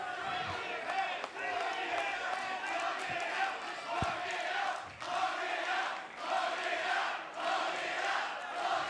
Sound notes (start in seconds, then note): 1.3 crowd chanting